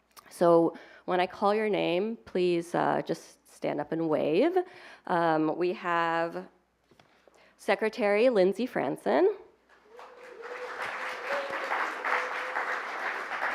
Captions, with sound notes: So when I call your name, please just stand up and wave. We have Secretary Lindsey Fransen-- [APPLAUSE]